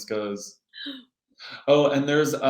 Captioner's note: gasping